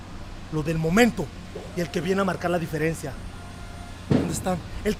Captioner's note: speaking spanish